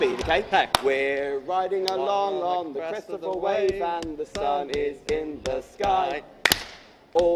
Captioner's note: clap